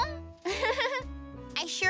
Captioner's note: giggling